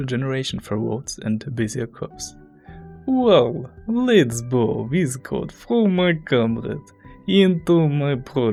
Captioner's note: Russian accent